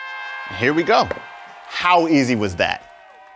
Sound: horn sound

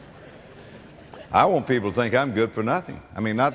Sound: audience laughter

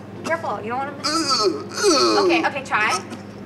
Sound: choking

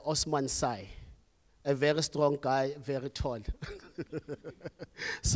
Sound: laughs

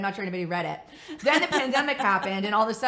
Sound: laughs

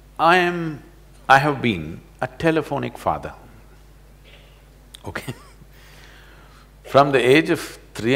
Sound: laughs

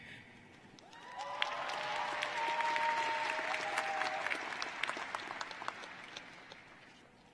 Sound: cheering and applause

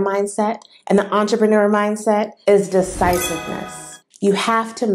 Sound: sound effect

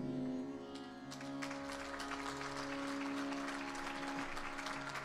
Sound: audience applauding

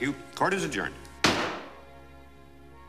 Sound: gavel banging

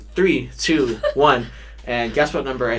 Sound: laughs

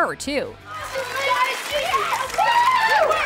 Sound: cheering

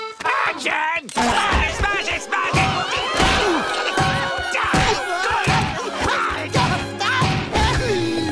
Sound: screaming

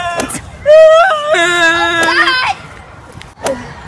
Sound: crying

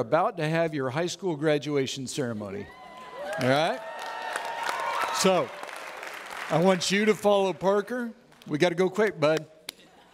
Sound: audience Applauds

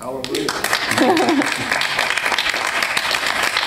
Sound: applause

